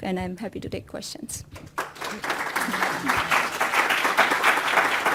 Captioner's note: applause